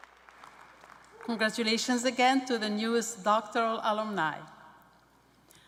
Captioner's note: cheers and applause